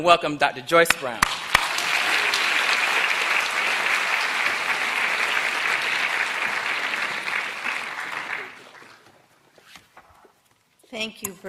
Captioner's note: applause